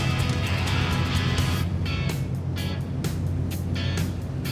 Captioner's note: engine roaring